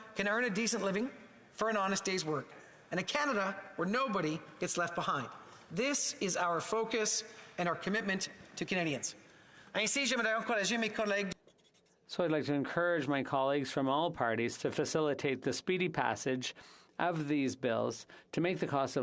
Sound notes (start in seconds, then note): 16.3 speaking French